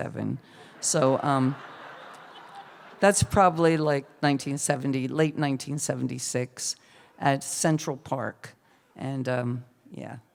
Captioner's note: laughter